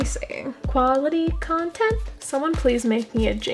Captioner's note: sing song